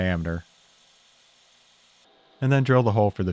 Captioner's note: machines whirring